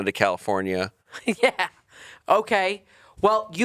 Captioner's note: chuckling